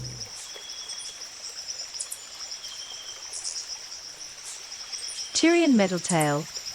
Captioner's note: bird chirping; river flowing